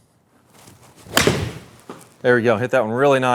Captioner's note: golf ball pings